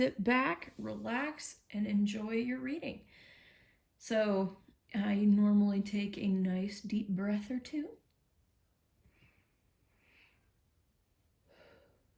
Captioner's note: deep Breath